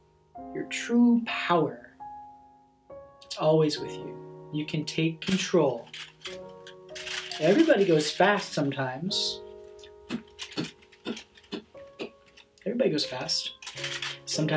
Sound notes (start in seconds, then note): 9.4 Danny Joe beatboxing